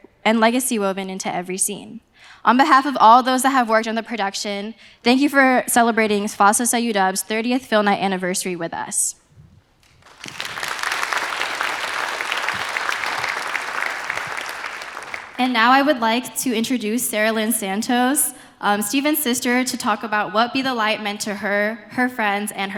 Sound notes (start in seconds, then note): 9.8 applause